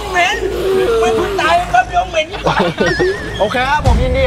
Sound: laughs

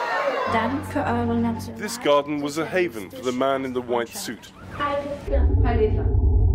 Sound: shouting

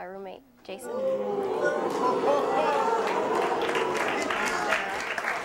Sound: audience jeering

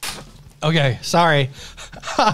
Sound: laughs

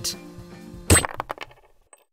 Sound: impaling noise

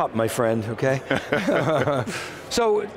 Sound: both laugh

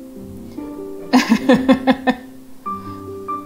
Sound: laughs

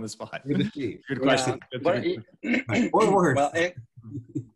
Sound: group chatters

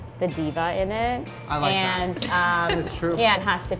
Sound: laughs

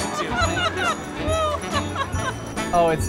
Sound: laughter

